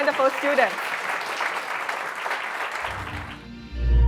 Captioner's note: audience claps